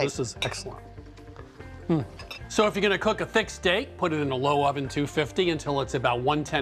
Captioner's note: none